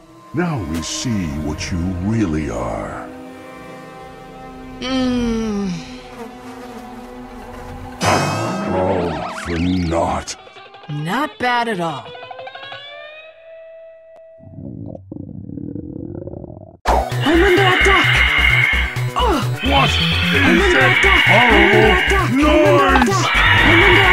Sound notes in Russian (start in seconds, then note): 14.6 звуки китов